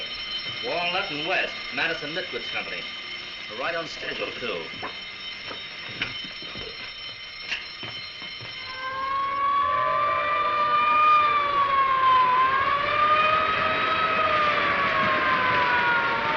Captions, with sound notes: Walnut and West, Madison Knit Goods Company. Right on schedule too. [RINGING CONTINUES] [SIRENS WAILING]